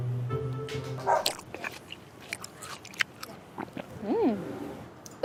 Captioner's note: dog barking